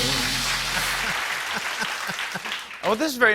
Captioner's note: laughs